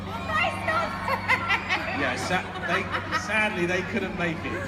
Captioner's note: crowd cheering